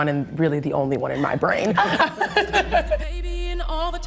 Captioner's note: laughter